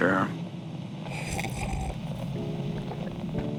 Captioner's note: he sips wine fx